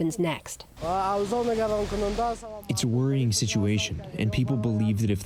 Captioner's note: through translator